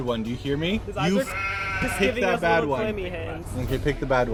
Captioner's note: sheep noise